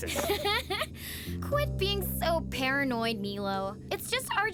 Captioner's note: laughing